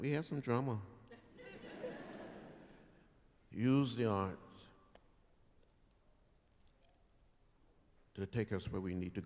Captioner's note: laughter